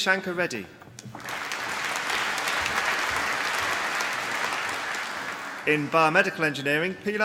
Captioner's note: applause